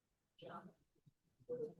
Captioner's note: speaking Hindi